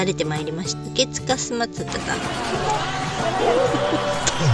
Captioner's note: laughs